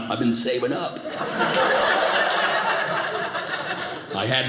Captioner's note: audience laughing